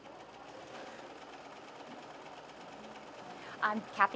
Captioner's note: sewing machine noises